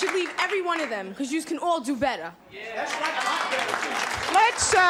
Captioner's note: applause